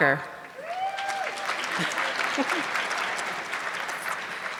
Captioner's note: audience clapping